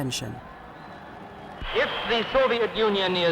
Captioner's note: crowds Cheering